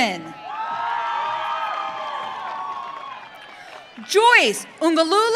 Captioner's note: audience cheering